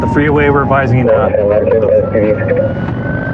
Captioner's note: radioio c chatttterer